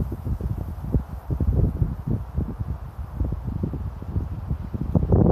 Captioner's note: wind blowing